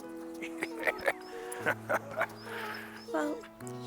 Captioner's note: Hatcher laughing